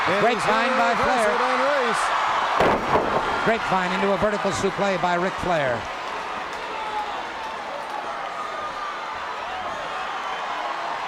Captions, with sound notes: Grapevine by Flair. (bodies thud) Grapevine into a Vertical Suplex by Ric Flair.